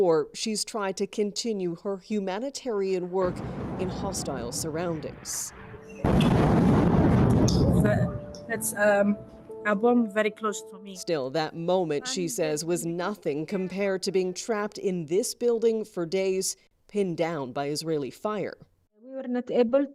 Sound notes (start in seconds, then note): 7.6 bombing